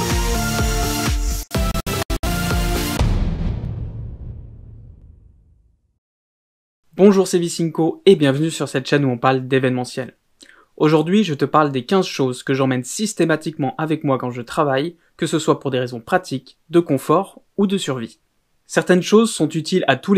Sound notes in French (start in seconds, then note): 2.8 Boum